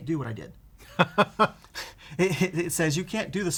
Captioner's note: laughter